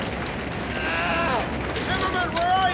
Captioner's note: Timmerman groans